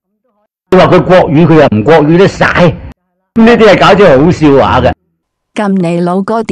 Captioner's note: Mandarin